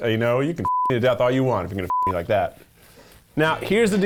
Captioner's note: beep